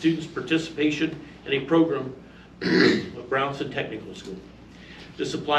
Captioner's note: clears throat